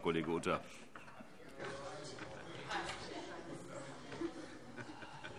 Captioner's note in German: Heiterkeit